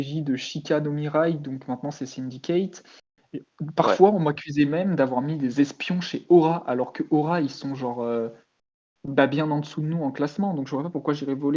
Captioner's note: laugh